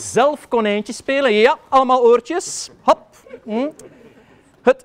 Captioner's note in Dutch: gelach